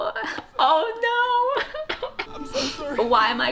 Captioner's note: sobs